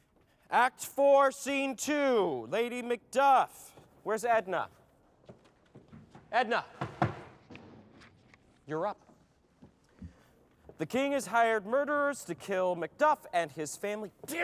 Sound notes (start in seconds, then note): 6.6 taps foot